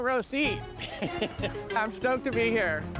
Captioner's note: laughter